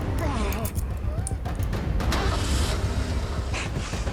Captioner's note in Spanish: Quejidos; Sonido del carro